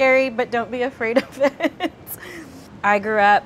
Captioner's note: laughs